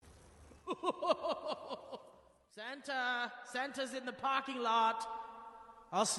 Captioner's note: laughs